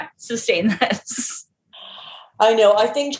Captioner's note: laughs